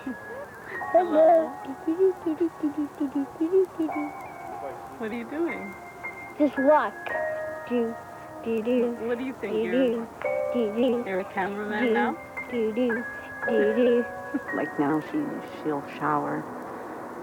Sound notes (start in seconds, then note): 7.2 sing-song; 13.4 mom laughs